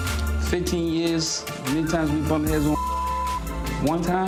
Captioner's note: beep; beep